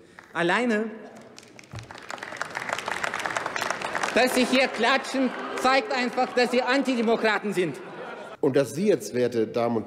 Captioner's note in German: Beifall bei der LINKEN – Zurufe von der AfD: Buh!